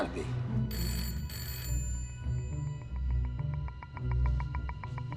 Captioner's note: phone ringing